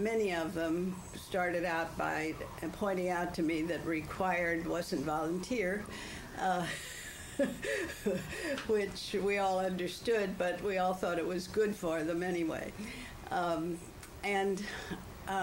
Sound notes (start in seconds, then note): 6.6 laughs